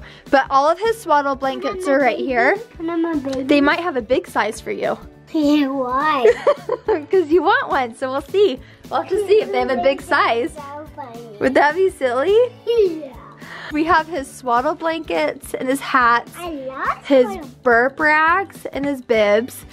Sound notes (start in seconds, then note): 6.2 laughs